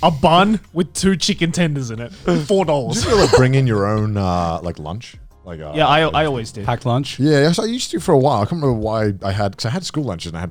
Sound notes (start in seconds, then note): 2.9 laughs